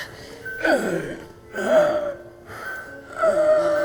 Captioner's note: David gasping